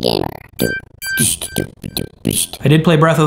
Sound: beatboxing

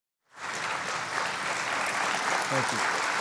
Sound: audience applauding

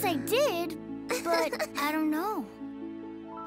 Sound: sighs; chuckles

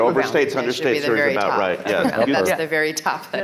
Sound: chattering

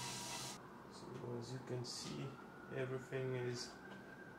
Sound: drill whirring

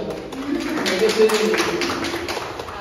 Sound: clapping

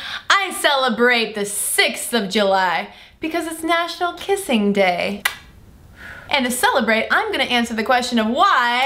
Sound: kissing sound

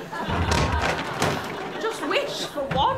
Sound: creaking wood

